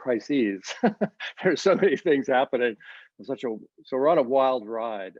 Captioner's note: laughs